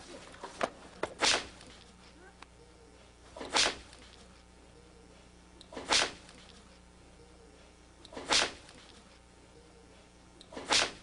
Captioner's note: sound of a belt whipping